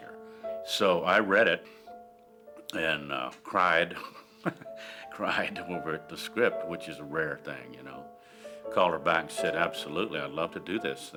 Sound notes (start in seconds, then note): 3.9 chuckles